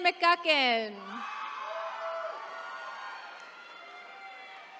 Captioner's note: attendees cheering